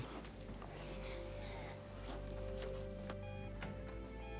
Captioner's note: beeping